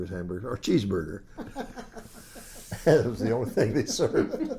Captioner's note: laughs